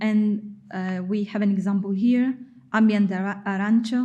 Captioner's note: speaking in foreign language